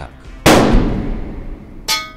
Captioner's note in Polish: strzał; intensywne rykoszetowanie